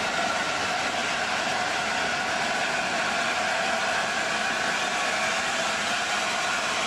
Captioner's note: train arrives